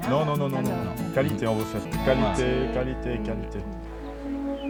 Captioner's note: speaking native language